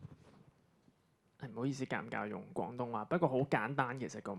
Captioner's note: Cantonese